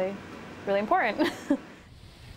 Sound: laughter

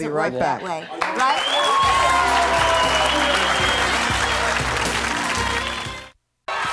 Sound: cheering; upbeat music

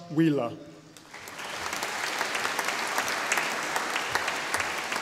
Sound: audience applauding

